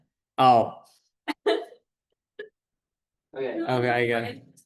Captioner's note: laughter